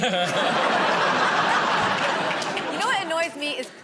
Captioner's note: laughter